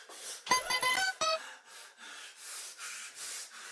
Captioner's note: bell chimes